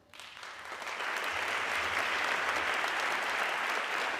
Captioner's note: audience clapping